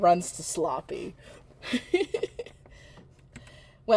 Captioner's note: continues chuckling